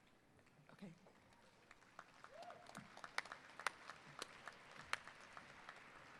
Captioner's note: applause